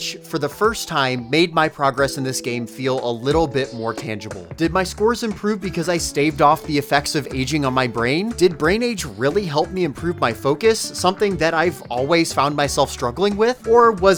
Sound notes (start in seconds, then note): none